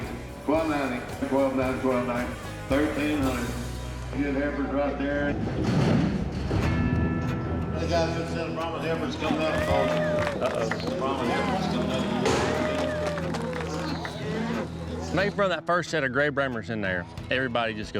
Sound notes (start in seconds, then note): 10.8 cheers